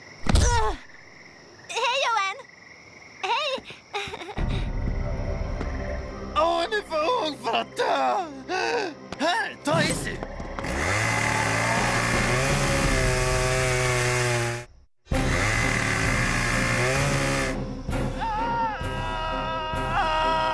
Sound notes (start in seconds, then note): 10.6 chain saw revving; 18.1 screaming